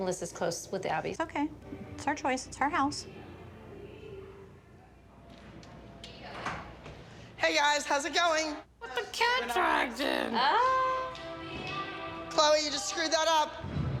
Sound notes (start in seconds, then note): none